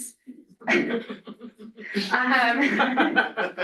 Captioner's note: laughter